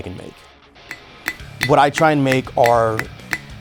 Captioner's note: hammer thudding